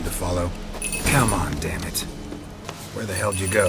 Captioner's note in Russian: звон колоколольчиков